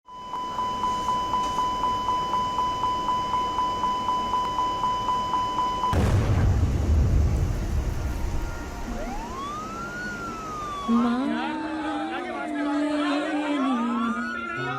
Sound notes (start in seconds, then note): 0.1 beeping; 5.9 blast; 7.6 ambulances Siren